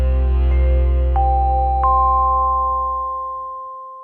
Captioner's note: chimes